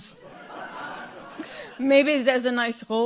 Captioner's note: audience laughs